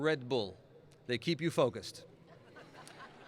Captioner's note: laughing